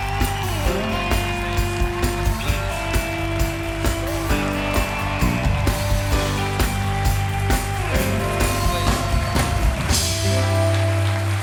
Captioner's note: applause